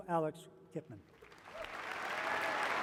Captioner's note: applause